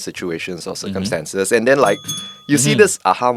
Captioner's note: ring Ring